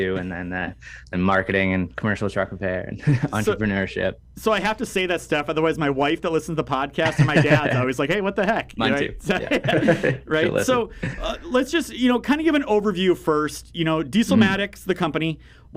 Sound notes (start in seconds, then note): 9.1 laughing